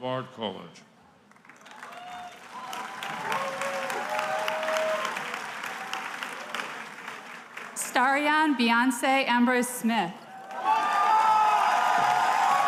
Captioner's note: applause